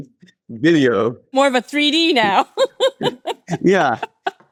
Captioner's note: laughs